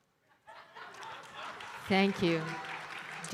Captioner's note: audience laughing; audience applauding